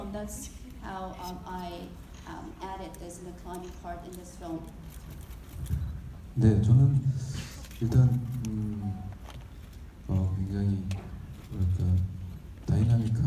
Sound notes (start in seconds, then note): 6.6 speaking in foreign language